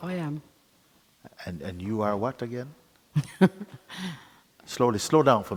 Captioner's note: questioner laughs